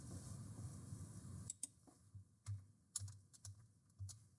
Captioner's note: mouse clicking